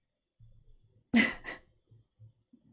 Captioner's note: laughs